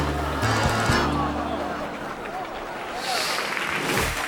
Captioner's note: audience gasps; audience applauds